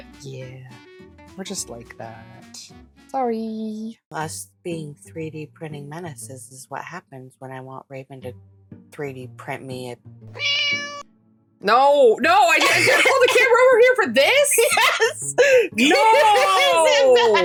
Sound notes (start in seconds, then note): 10.3 meow